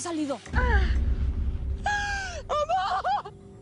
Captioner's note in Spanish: Sollozos